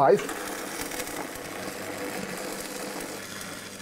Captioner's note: Zischendes Scheppern